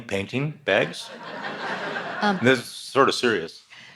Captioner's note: audience laughs